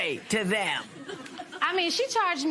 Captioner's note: laughter